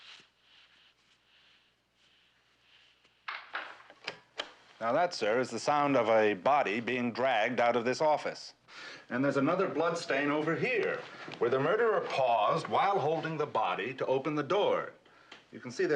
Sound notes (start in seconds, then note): 0.1 sürükleme sesi; 3.4 kapı kapanması